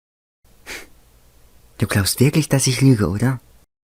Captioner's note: panting